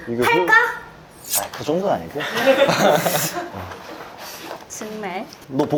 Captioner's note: inhaling with her nose out of embarrassment